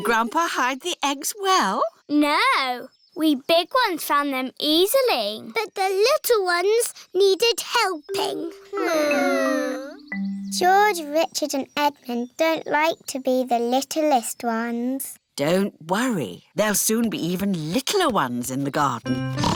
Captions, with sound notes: Did Grandpa hide the eggs well? No. We big ones found them easily. But the little ones needed helping. (WHINING) George, Richard and Edmond don't like to be the littlest ones. Don't worry. There'll soon be even littler ones in the garden.